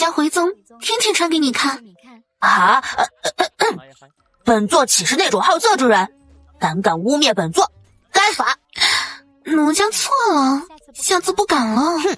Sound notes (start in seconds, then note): 2.4 cough cough cough